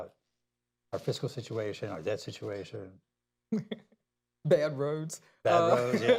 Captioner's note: laughs